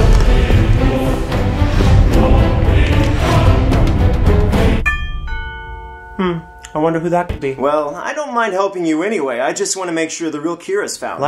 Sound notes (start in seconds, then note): 4.8 ding dong